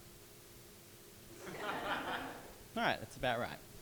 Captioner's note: audience laughing